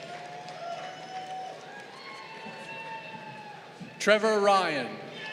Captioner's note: crowd cheering